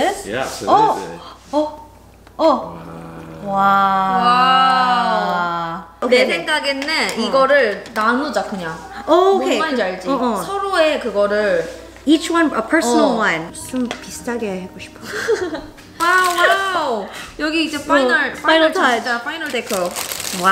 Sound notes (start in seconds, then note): 5.4 speaking in foreign language; 13.5 speaking in foreign language; 15.0 laughs